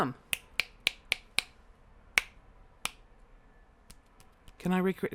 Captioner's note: finger snaps